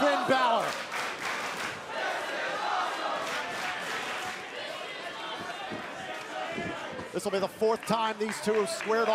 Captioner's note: crowd cheering